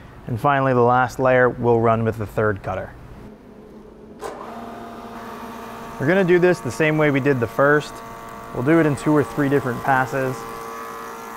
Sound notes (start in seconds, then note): 4.3 molder whirring